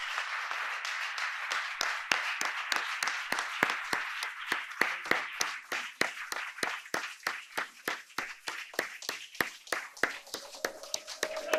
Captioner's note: applause